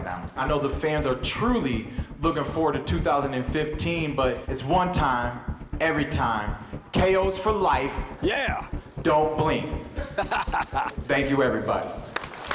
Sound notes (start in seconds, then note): 9.9 laughs